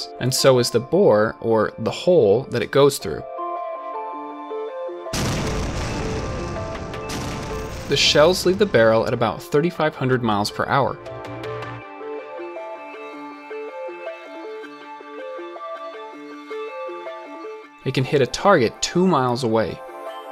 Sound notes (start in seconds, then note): 5.1 loud explosions; 12.2 bouncy piano music